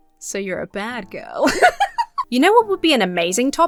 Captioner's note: laughs